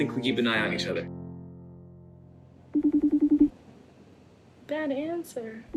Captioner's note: line trilling